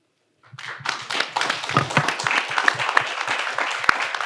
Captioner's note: audience applauds